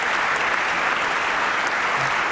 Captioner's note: applause